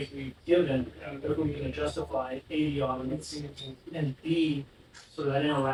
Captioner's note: none